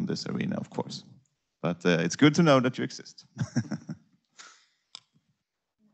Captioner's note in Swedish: skratt